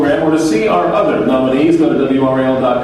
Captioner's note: none